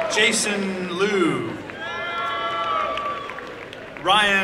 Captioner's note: applause and cheering